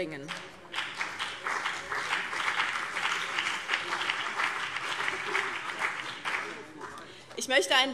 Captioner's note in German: Beifall BÜNDNIS 90/DIE GRÜNEN und vereinzelt CDU